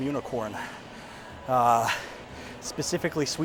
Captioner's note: breathing heavily